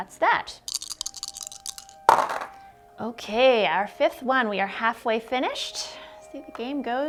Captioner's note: dice clunking; sing-song voice